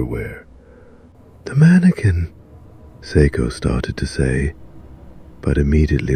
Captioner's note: nervous